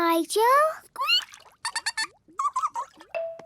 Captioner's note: both fish laughing